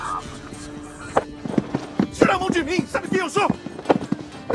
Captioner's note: both grunting